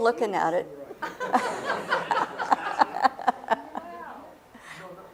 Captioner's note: laughter